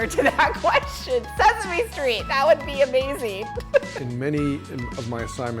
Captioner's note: laughs